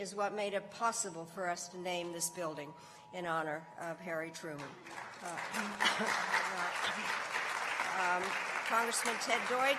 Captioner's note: applause